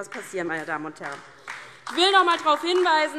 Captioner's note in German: Beifall DIE LINKE